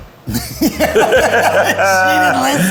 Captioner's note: both laughs